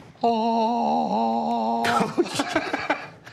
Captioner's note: laughter